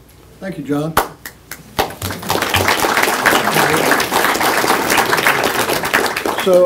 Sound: applause

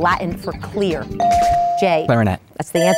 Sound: bell dinging

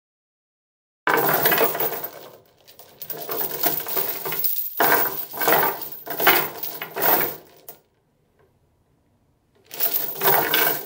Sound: sound of chain

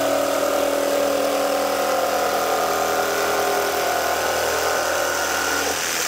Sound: drill whirring

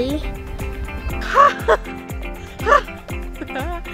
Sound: bird call, laughter

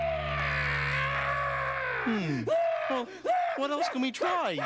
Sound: crying

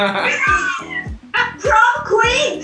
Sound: screams; laughs

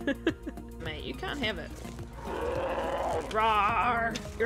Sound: bear roars

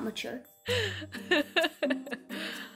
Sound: laughing

